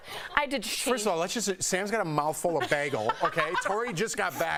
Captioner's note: laughter